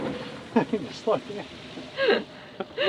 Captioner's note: laughs